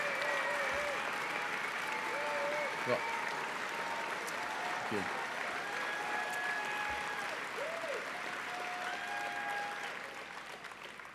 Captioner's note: applause